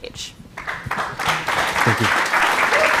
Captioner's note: applause